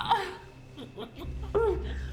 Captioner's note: Claire groans; Byler chuckling